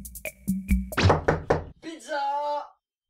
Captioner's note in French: Toc toc